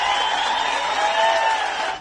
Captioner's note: cheering